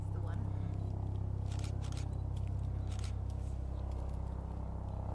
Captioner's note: repeated camera shutter clicks